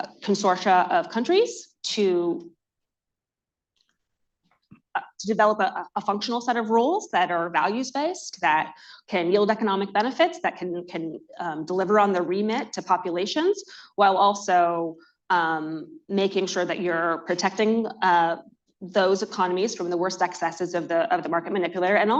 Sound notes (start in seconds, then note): none